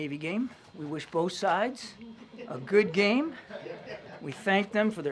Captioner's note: laughter